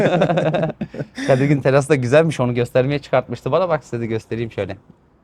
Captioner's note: laughs